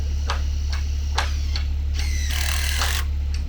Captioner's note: tool buzzes